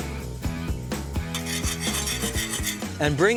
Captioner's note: whisking